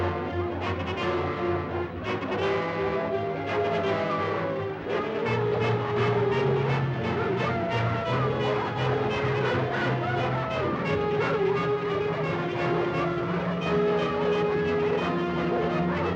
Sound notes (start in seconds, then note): 0.2 suspenseful music; 3.0 dog howls; 3.0 suspenseful music; 7.2 dog howls; 7.2 suspenseful music